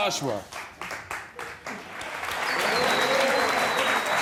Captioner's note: audience clapping